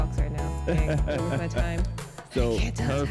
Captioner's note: laughs